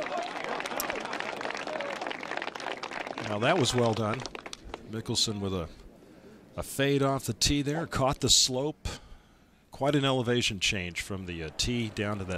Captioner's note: applause